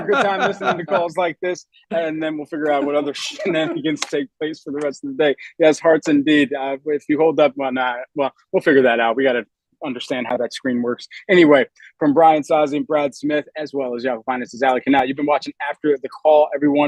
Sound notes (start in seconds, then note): 2.6 laughter